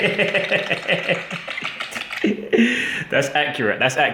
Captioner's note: laughing